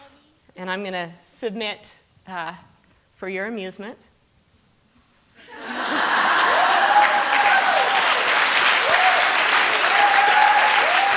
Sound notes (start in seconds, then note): 5.4 laughter; 7.7 applause